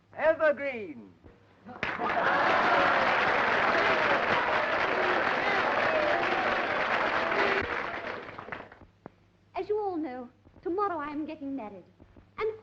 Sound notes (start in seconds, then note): 1.7 applause and cheering